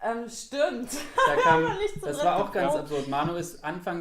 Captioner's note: laughter